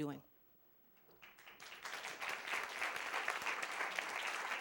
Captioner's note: applause